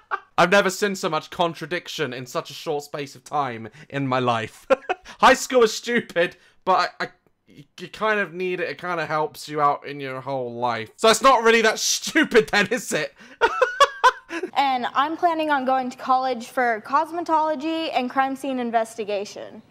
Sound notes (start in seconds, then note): 0.0 laughs; 3.7 breath; 4.5 laughs; 12.4 laughs